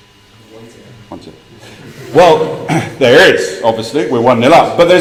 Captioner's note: laugh